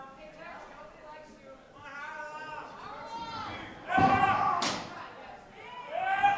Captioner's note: screams